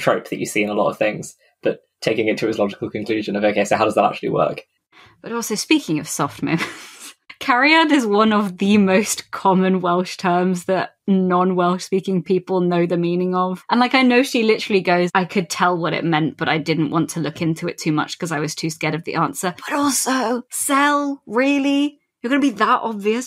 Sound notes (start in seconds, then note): 6.3 laughing